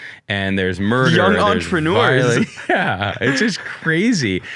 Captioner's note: both laughing